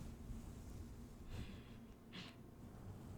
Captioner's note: chuckle